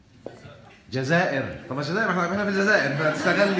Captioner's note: laughs!